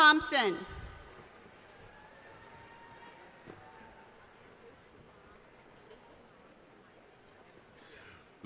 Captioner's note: cheering